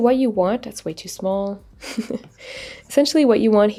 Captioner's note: laughs